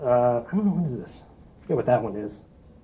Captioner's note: speaks faintly